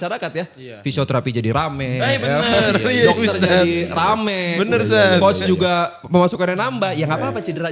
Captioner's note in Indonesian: tertawa